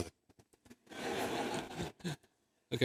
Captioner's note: laughter